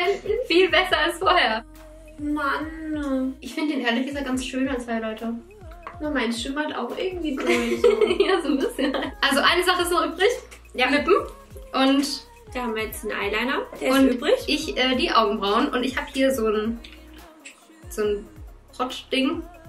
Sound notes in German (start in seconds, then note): 7.4 lacht